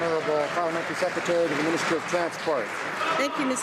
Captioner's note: some Applause